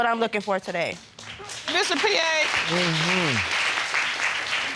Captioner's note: audience applauding